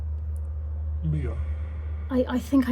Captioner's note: ghostly Voice